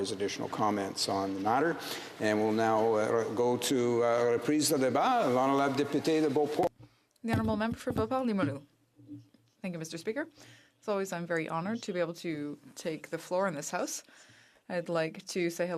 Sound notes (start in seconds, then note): 11.1 speaking French